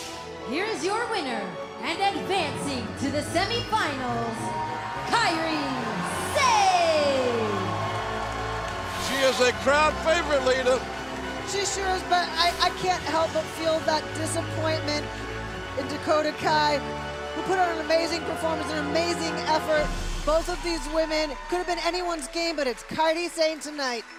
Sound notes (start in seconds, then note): 6.1 cheers and applause